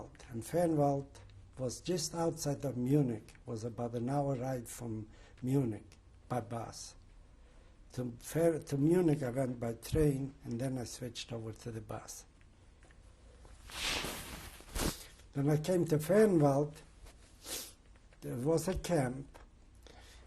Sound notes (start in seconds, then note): 12.2 pauses for 3 seconds